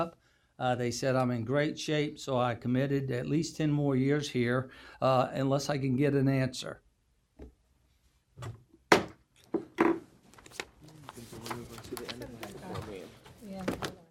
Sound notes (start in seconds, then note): 8.9 gavel banging